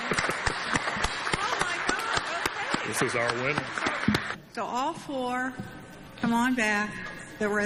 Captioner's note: clapping